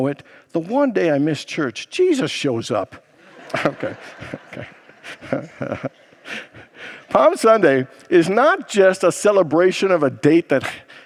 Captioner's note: congregants laugh